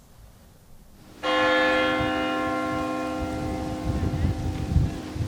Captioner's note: bells ringing